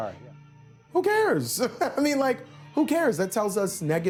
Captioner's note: chuckles